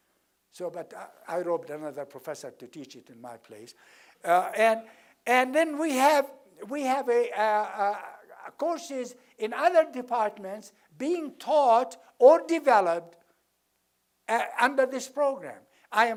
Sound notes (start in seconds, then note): none